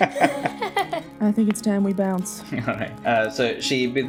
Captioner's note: laughter; laughs